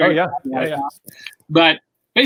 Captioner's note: murmurs